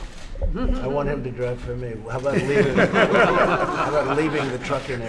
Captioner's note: laughter